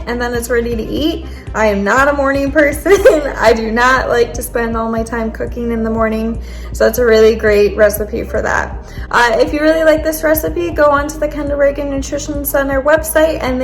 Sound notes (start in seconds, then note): 2.9 laughing